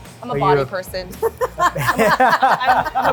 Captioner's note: laugh